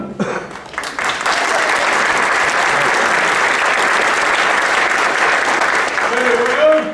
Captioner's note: well-deserved applause